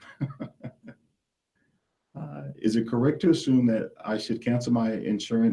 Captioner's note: laughs